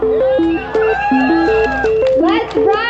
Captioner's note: crowd cheering